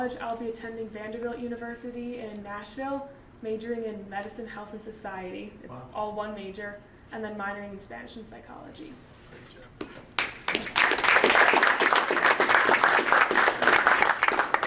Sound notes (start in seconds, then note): 10.0 group applauding